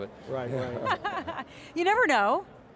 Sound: laughter

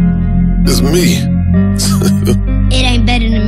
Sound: laughing

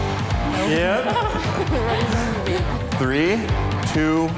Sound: contestants laughing

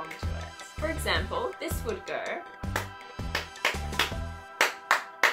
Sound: claps

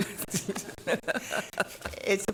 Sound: laughing

